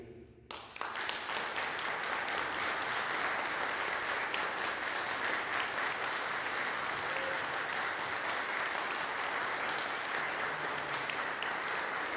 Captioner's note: applause breaks out; applause continues